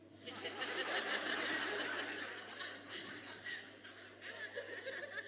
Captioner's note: participants laughing